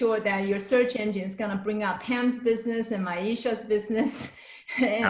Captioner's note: laughs